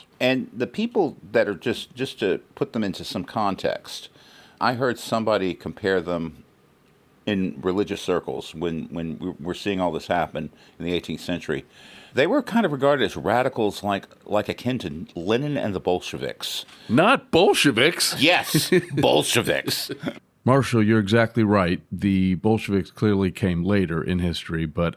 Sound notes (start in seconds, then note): 18.4 laughter